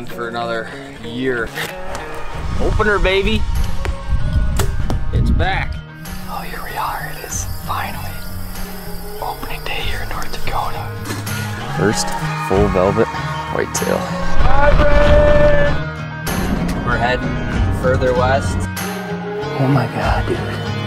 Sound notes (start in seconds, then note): 4.7 bow twangs